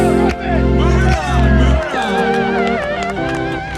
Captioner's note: crowd clapping